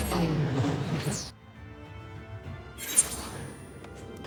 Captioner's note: whooshing